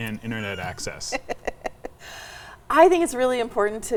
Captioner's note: laughing